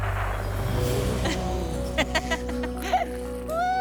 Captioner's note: laughing